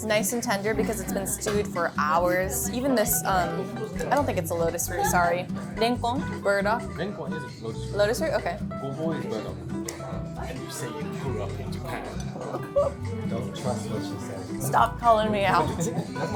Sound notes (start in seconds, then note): 6.0 speaks in foreign language